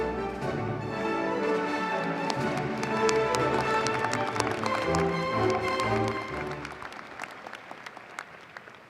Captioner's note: applause